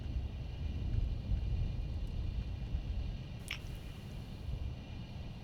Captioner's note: none